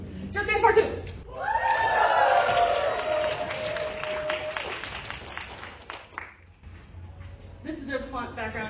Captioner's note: applause